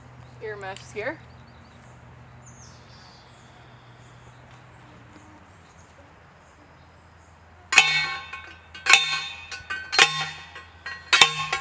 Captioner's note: metal clanking noises